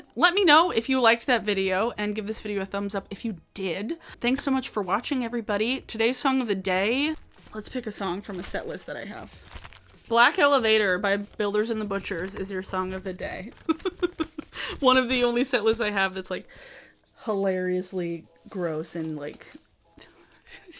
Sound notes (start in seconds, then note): 13.6 laughs